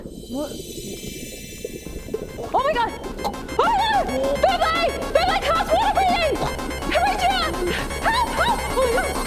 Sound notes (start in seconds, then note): 1.9 starts drowning; 2.2 chokes